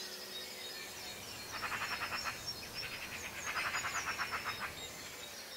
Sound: magpie bird alarm call

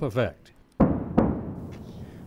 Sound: sound of double sonic booms

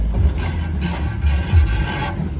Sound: scrapping

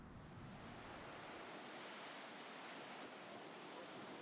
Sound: waves crashing softly

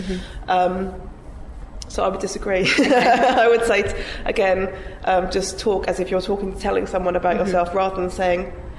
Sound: giggles

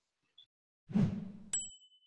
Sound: whoosh; ding

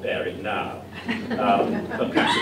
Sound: laughter

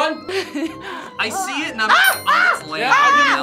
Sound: screams

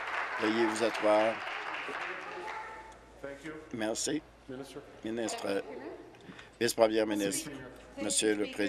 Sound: applause

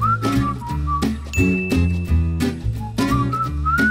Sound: ding

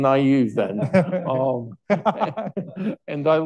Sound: all laughing

